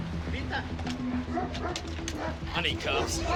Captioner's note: dog barks